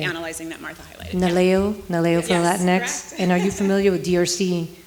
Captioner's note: speaking foreign language